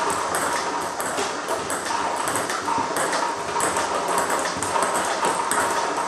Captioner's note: ball ping pong hitting continues